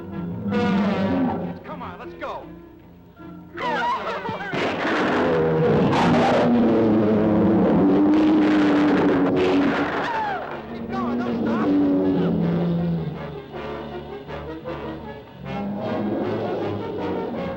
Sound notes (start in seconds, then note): 3.2 Pat screams; 4.4 shot firing; 4.7 lizard bellowing; 5.4 dramatic music; 12.4 dramatic music; 12.4 lizard bellowing